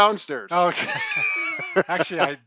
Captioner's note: laughs